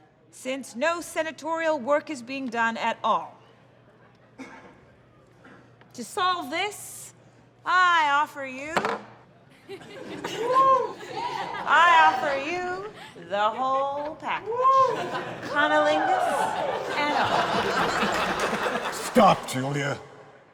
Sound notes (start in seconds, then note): 9.5 soft laughter and whooping; 14.0 laughter and whooping